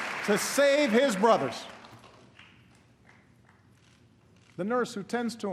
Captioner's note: applause